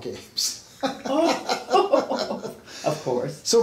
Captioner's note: laughs